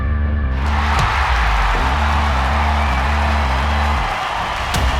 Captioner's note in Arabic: تشجيع الجمهور